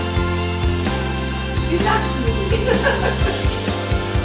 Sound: laughter

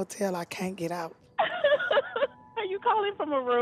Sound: laughing

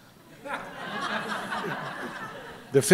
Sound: laughter

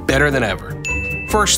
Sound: ding

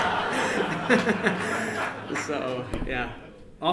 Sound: laughter

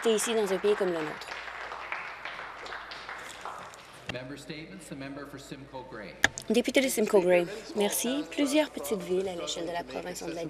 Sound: applause

